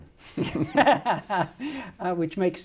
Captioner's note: laughing